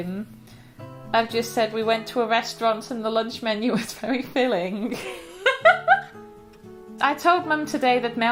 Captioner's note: laughter